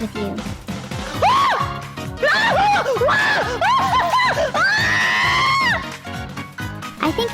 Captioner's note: repeatedly screams